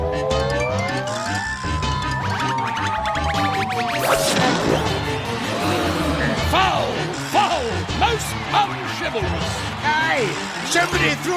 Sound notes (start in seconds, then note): 6.8 all gasping